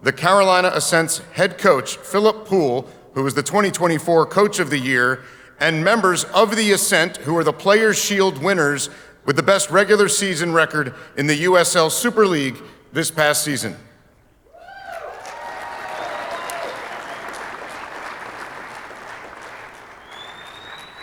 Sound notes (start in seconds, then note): 14.5 audience cheering; 17.8 audience applauding